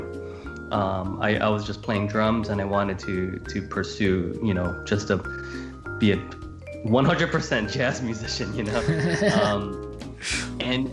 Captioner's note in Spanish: Risas